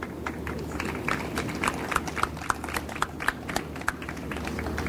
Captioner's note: audience applauds